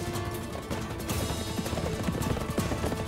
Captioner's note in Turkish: At nalı sesleri